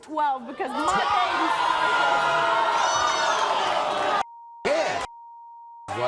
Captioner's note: audience boos